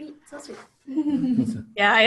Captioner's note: giggling